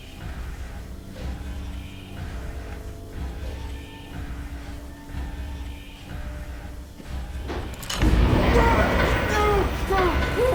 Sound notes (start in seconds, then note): 4.2 beating; 4.2 hissing